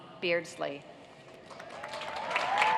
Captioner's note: cheers and applause